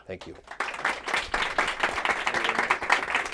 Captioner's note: applause